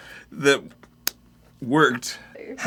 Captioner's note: slaps hand